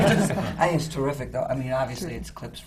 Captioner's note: laughter